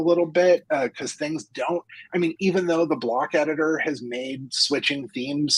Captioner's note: laughs